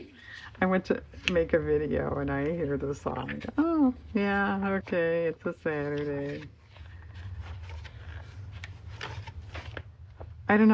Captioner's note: laughs